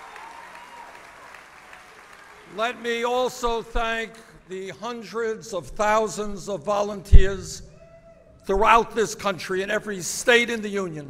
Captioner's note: applause